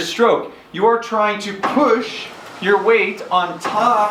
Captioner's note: SkiErg whirring